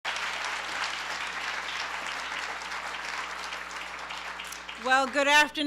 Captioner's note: applause